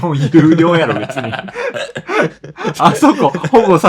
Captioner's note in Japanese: 笑い; 笑い